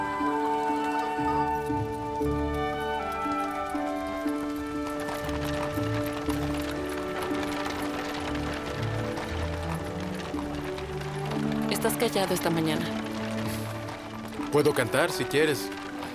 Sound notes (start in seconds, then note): 3.4 geese honking; 7.5 slow orchestral music continues